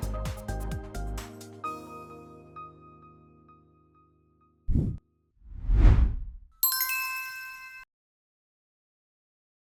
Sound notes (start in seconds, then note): 0.2 bright music ends; 4.7 bell dings; 5.4 transition wooshes